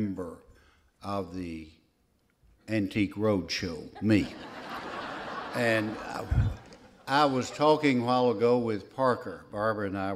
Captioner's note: laughter